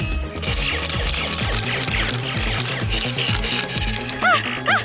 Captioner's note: Nerf blaster firing